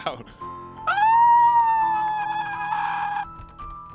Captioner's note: birdwatcher screams; door rattles